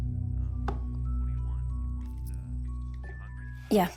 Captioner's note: on phone